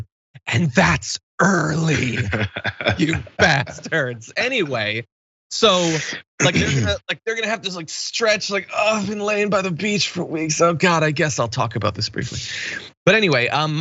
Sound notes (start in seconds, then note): 1.6 laugh; 2.0 cough